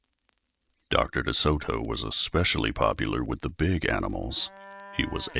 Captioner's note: cow mooing